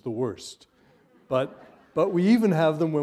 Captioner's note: laughter